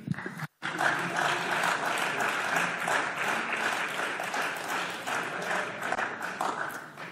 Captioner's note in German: Beifall